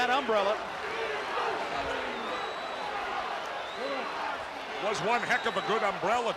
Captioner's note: crowd chatter